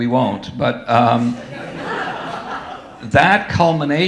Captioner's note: audience laughing